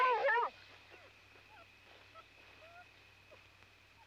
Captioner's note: dogs whimpering